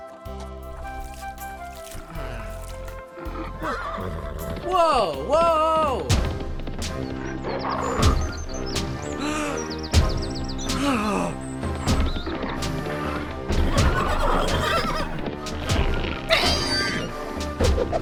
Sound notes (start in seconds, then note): 10.3 ਜੇਹੂ ਸਾਹ ਲੈਂਦਾ ਹੋਇਆ